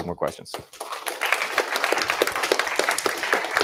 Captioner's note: applause